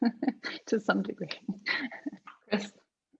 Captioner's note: laughs